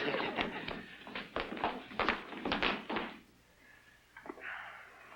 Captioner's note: footsteps pattering